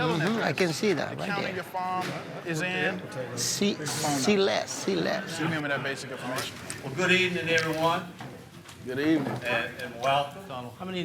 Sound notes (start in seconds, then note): 5.1 overlapping chatter